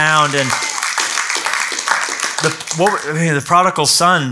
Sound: clapping

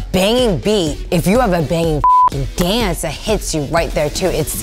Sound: beep

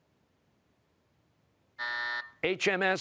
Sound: buzzer

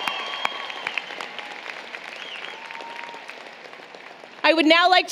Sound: applause, Cheering

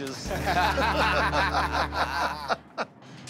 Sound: laughter

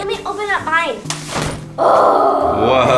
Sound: umbrella popping open

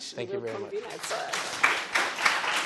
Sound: audience applauding

